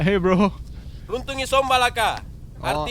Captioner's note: speaking in Bahasa Makassar